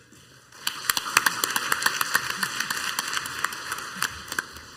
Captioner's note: crowd applauds